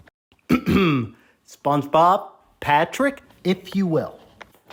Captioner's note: clears throat